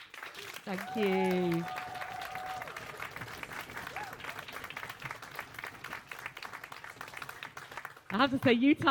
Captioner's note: applause